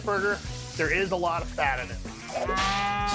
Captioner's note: cow mooing